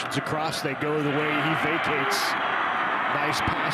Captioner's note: fans cheer